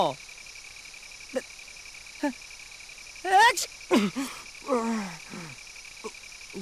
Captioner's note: silence; sneeze